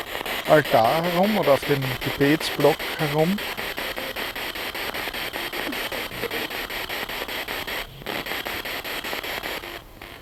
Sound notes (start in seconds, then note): 3.9 noise of the spiritbox in the background